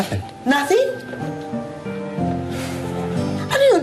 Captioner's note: sighs